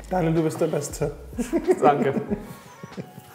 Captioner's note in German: lacht